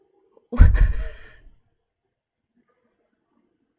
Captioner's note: laughs